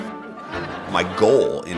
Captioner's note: audience laughing